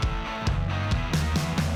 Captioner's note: none